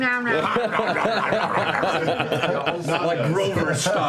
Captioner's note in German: Verschiedene Essgeräusche